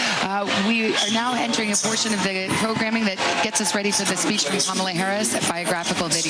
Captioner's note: applause